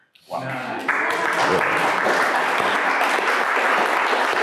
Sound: crowd applause

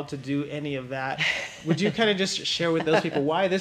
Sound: laughs

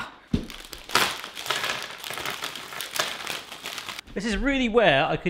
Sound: plastic rustling

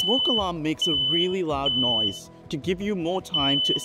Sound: smoke alarm beeping

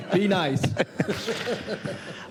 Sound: laughter

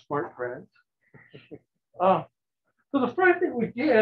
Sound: chuckles

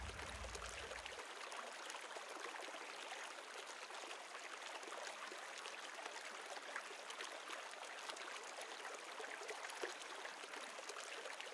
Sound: river sounds

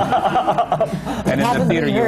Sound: laughs

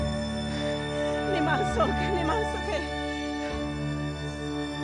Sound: speaking in own language

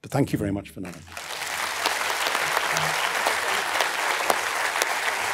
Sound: applause

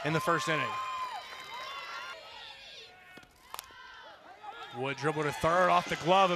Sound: cheering

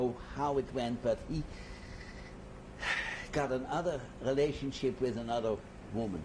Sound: sighs

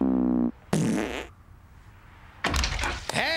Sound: breaking wind

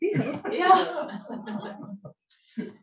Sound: laughing

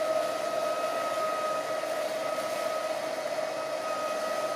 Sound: motor whirring

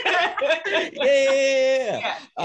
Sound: laughing

